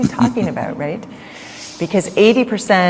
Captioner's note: Sadhguru Laughs